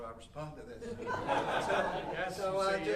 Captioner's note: audience laughing